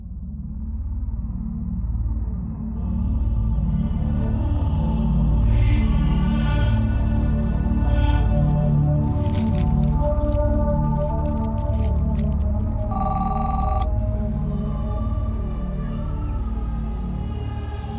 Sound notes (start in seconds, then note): 0.1 dark music; 12.8 phone rings